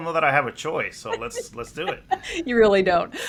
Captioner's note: laughs